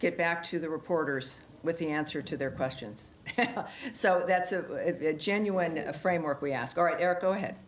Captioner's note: laughter